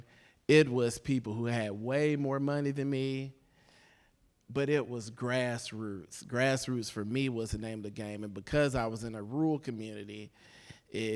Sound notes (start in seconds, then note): none